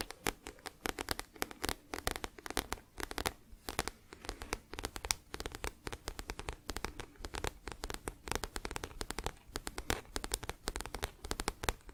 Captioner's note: tapping on book